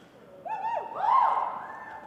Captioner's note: audience cheering